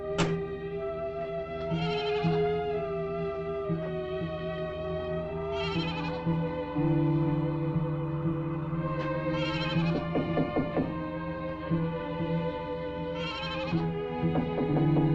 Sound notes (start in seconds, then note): 10.0 knuckles rapping